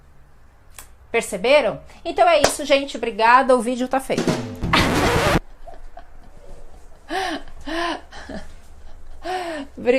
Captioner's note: laughs